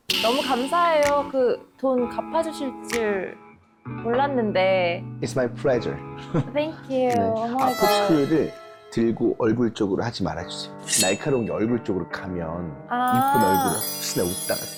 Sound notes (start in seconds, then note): 7.6 bothered sound effect